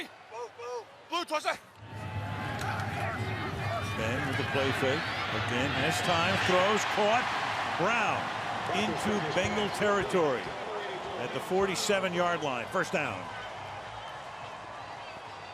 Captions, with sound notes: Blue 20! Blue 20, set. Ben with a play fake. Again, has time. Throws. Caught. [cheering] Brown into Bengal territory at the 47-yard line, first down.